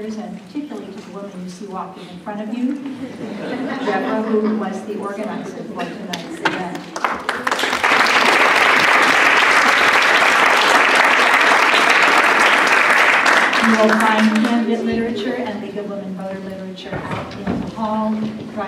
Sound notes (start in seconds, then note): 6.7 applause